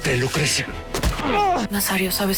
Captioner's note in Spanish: Quejido